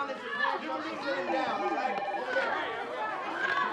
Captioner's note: ringing continues